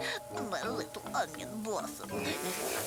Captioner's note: discordant music; Otto puffing